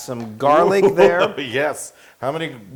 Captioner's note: laugh